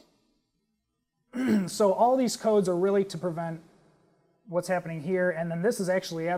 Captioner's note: cough